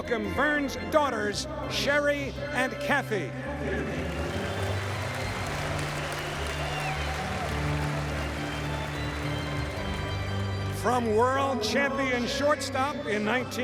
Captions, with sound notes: Please welcome Burns' daughters, Sherry and Kathy. [APPLAUSE]